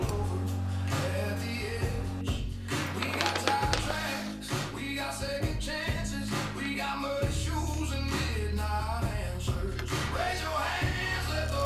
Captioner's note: arc welding